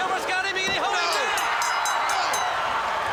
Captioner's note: bell ringing; crowd cheering